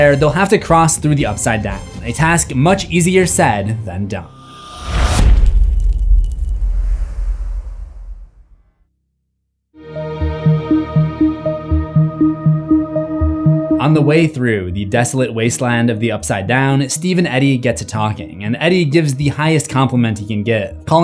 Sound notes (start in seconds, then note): 4.8 impact